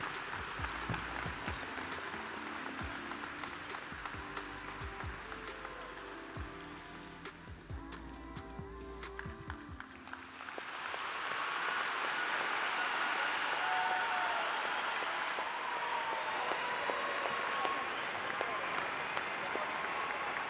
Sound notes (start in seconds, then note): 5.7 applause